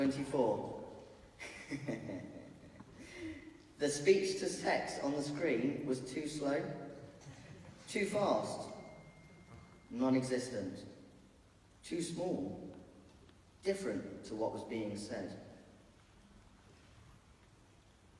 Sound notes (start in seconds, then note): 2.0 laughs